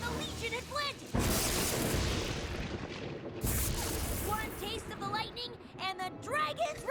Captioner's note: crash!